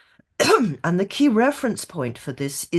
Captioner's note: clears throat